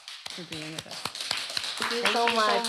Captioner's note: applause